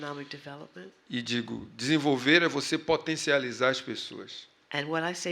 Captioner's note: speaking portuguese